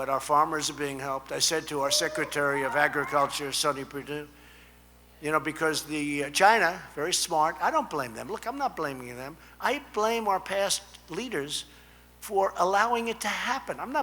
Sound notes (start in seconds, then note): none